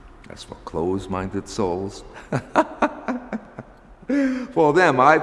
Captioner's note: laughs